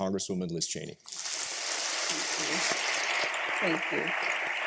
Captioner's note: applause